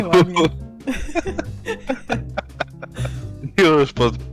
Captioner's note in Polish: śmiech